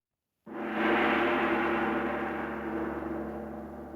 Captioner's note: gong resonating